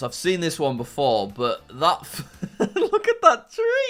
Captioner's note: laughing